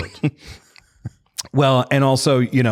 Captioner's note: laughter